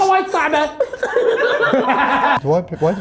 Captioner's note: laughing